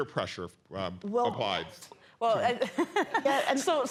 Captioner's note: laughs